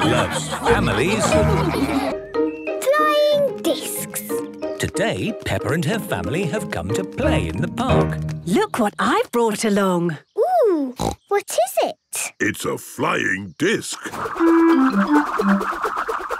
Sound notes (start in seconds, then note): 11.0 snorting